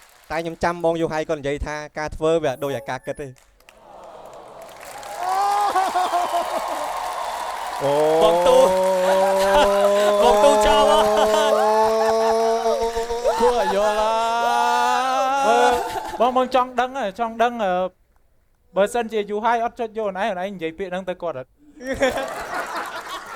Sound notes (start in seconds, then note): 4.1 cheering; 11.7 laughing; 14.8 cheering, laughing; 22.0 cheering, laughing